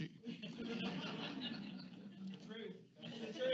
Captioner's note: audience laughs